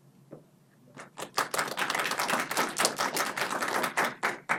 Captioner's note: clapping